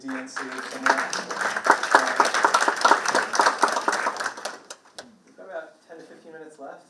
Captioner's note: participants clapping drowns out speaker